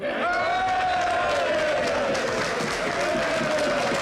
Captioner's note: cheering